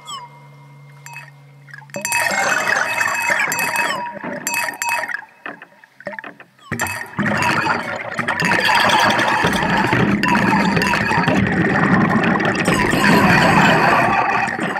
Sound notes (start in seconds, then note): 1.8 bell ringing; 8.7 intense music